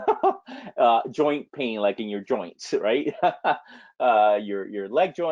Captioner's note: laughs